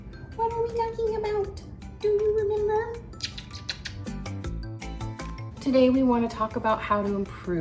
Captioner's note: kissing sounds